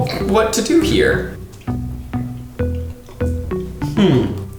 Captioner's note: chewing